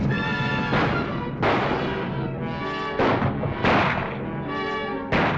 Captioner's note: gunshots